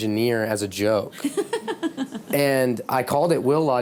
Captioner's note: laughing